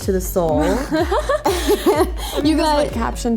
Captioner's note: both laugh